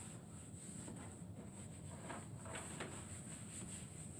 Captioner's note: wiping sounds